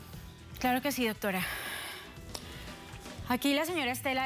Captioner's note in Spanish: exhala